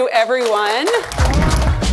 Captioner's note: attendees applauding